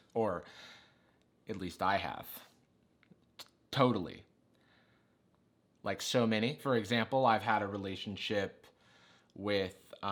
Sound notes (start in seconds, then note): none